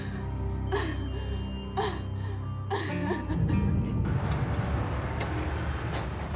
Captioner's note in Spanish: sollozos